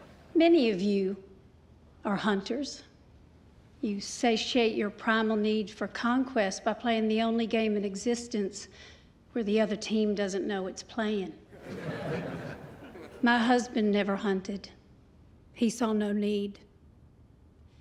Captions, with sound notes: Many of you are hunters. You satiate your primal need for conquest by playing the only game in existence where the other team doesn't know it's playing. [LAUGHTER] My husband never hunted. He saw no need.